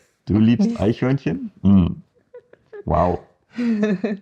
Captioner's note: japanese; german